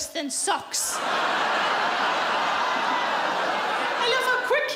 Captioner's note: audience laughs